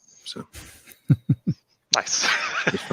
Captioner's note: laughing